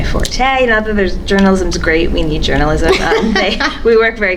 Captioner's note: laughs